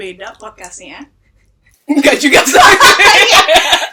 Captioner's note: laugh